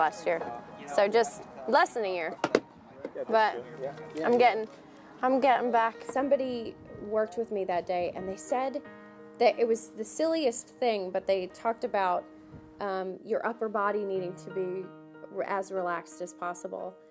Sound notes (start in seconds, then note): none